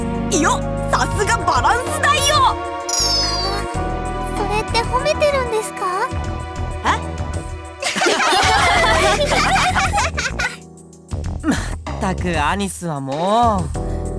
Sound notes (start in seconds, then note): 7.8 laugh